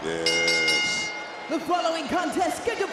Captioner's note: bell rings